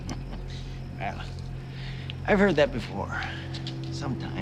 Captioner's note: laughs